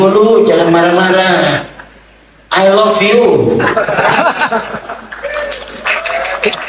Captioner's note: laughs